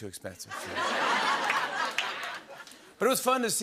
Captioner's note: laughter and applause